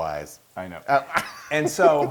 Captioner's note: laugh